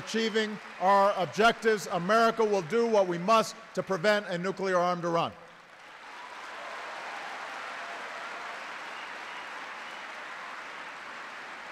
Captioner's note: applause